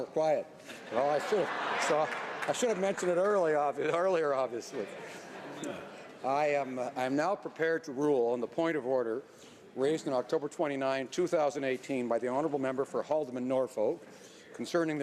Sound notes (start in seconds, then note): 4.8 some laughter